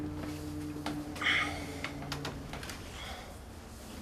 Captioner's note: rustling